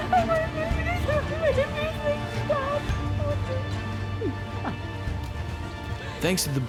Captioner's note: sobbing